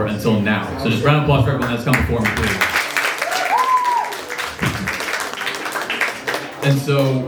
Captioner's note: applause and cheers